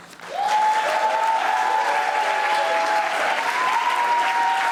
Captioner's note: audience applauding